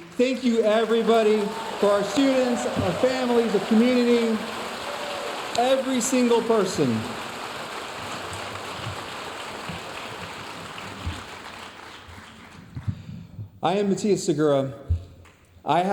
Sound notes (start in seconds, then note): 7.8 audience applauding